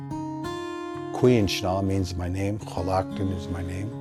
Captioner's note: speaking Indigenous language